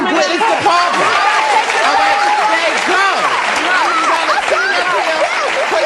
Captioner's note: audience applauding